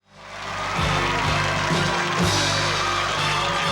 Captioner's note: cheering, clapping; theme music playing